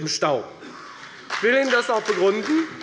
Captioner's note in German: Beifall bei der FDP